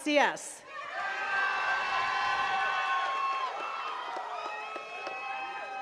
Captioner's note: attendees cheering and clapping